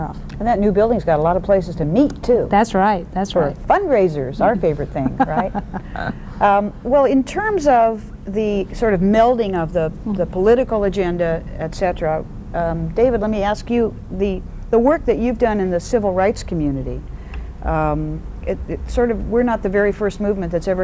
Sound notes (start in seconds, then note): 5.0 laughter